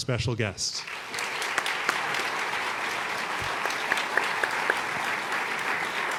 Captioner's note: applause